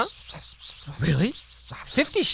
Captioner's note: whispers